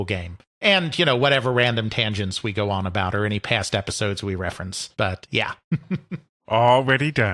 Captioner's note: chuckles